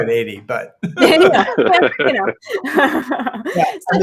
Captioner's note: group laughing